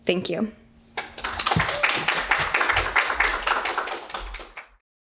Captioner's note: audience applauds